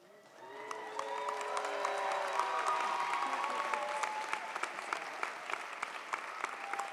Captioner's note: audience applauds; audience cheers